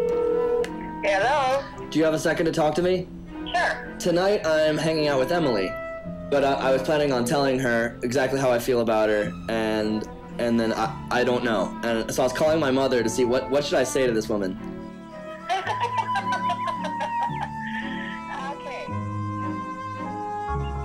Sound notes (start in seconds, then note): 13.5 woman laughing